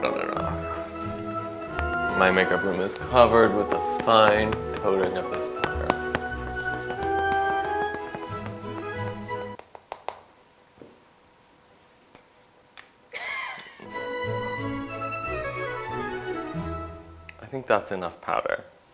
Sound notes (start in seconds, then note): 7.1 classical music continues; 10.1 music stops as taps; 13.1 photographer laughs